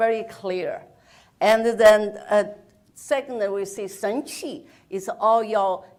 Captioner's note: speaks in foreign language